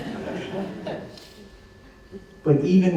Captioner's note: laughter